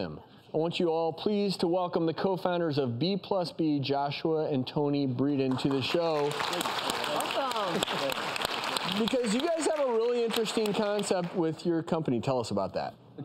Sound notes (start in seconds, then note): 5.5 audience applause